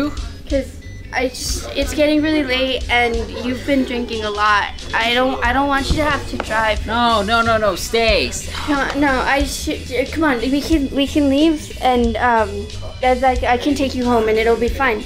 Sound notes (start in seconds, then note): 8.2 scoff; 9.4 drunken slurring